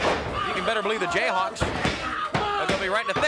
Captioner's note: body thudding; hands thudding